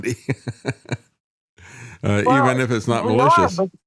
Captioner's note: laughs